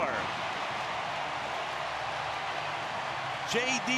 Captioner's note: crowd cheering